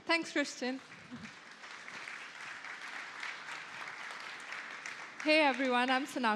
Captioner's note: applause